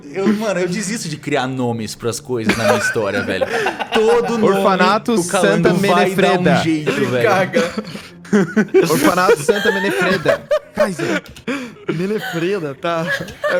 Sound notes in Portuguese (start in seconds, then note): 10.1 Risos